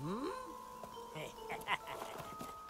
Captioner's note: yago sniggers